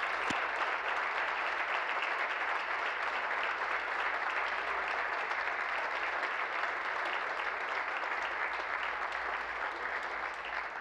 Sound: applause

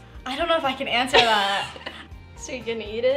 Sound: laughter

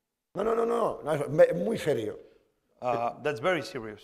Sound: speaking spanish

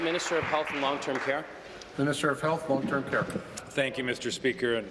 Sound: applause

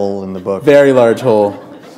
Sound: chuckle

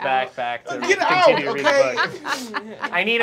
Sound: laughing

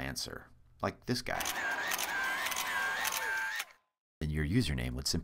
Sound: crowd cheers

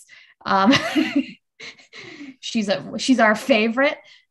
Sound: laughs

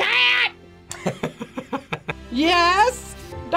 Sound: laughs

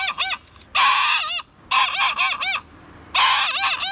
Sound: barking

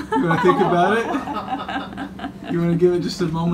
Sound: laughing

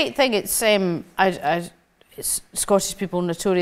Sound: stammering

